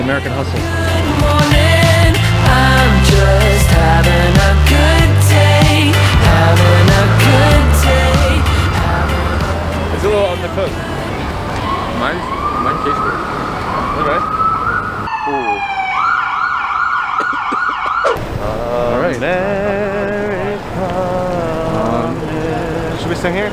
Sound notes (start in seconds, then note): 17.1 coughing; 19.2 singing